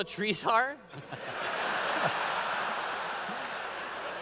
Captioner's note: laughter